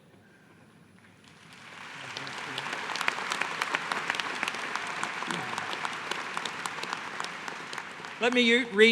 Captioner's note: applause